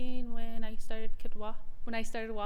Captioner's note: speaks in Araphao